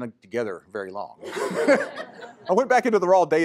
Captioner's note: laughter